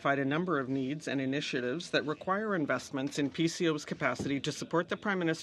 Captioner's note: speaking French